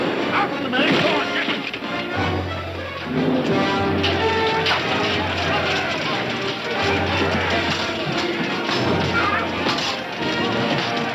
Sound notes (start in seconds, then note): 0.0 gun firing; 4.0 swords clanging; 4.2 men shouting